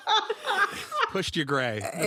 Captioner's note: laughter